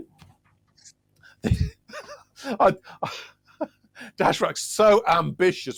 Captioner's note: laughing